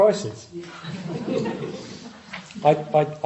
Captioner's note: audience laughing